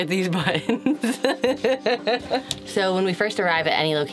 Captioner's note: laughs